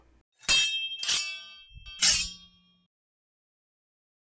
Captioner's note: swords clanking